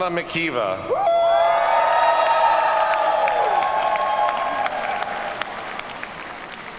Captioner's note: audience cheers and applauds